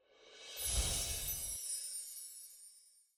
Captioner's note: chiming sounds